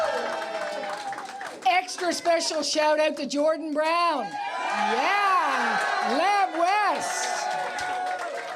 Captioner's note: cheers and Applause